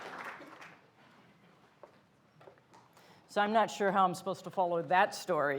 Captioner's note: applause